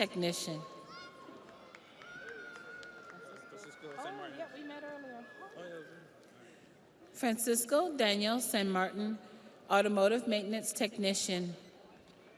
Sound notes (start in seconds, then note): 2.9 audience applauds; 2.9 audience cheers